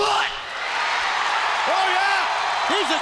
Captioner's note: crowd cheering